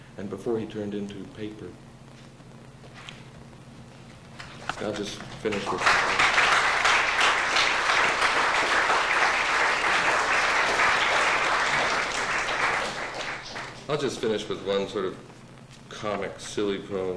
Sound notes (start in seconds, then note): 11.1 applause